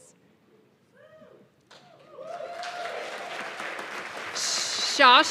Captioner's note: cheers and applause